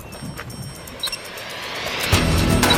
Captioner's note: beeping continues